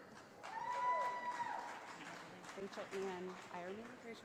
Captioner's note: audience applauding